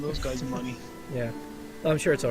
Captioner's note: chuckling